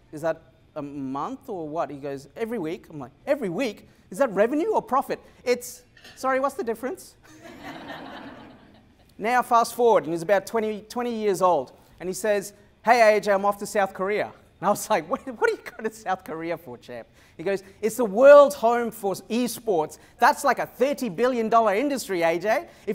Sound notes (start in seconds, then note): 7.2 laughter